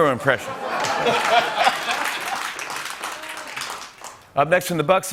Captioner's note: laughter